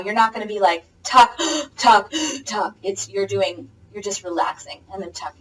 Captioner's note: gasp